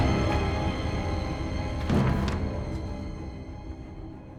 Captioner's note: dramatic music; pages flipping